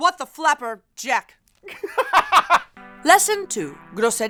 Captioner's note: laughs